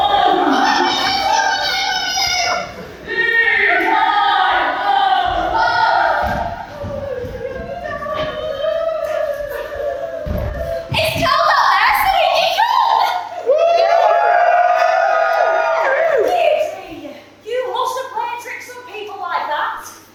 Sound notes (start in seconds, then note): 6.8 everyone wails in fear; 13.4 audience cheering